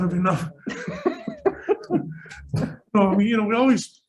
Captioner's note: laughing